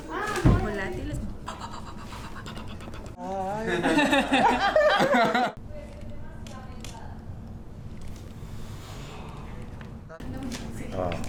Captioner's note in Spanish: Suenan las palmas chocando